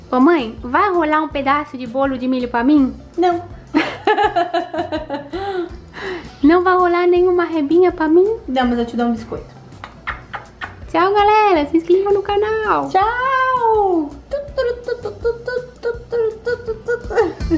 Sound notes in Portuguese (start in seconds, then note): 3.7 Risos; 9.8 Barulho de beijo